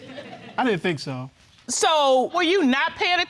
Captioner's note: audience giggling